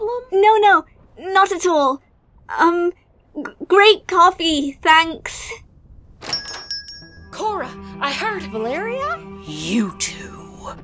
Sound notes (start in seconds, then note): 6.2 door slams open